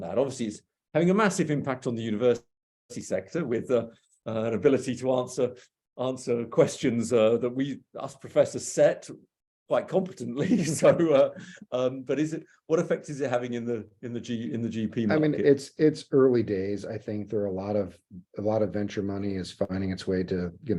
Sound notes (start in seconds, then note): 10.4 laughing